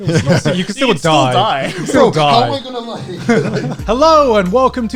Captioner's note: guys laughing